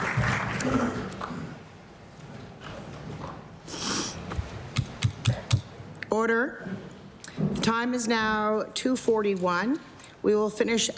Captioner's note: applause